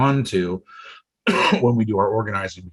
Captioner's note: coughs